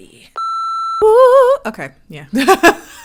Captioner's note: beeping